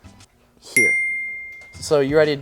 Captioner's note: bell dings